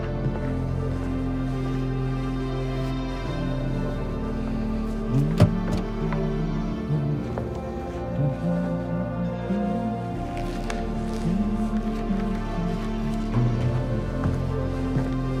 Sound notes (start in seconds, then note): 0.2 dramatic orchestral music; 5.0 Tommy humming; 11.1 dramatic orchestral music